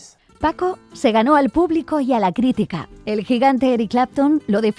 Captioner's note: speaking in Spanish